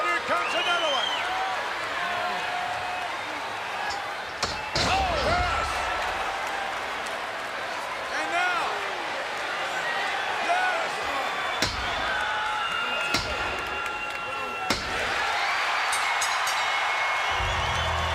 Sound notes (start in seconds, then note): 11.6 count pounding; 15.7 crowd cheering; 15.9 bell ringing